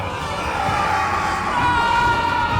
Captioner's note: James screams; Will screams; Butters screams